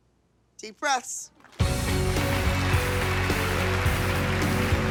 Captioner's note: applause; uptempo music